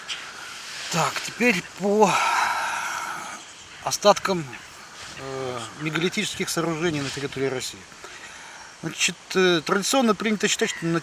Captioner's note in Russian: вздыхает